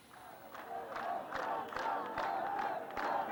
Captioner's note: crowd chanting